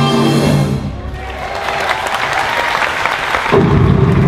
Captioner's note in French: Applaudissement